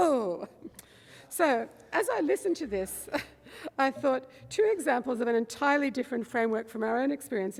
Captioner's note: laughs